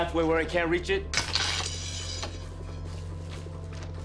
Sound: knife clanks, scrapes

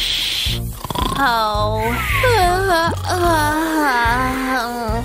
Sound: snoring; snoring; yawns

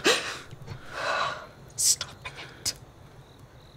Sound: exhales

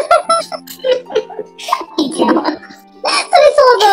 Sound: laughs

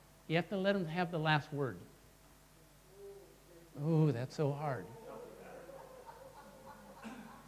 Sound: sounds from audience

